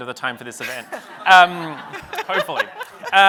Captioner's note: audience laughs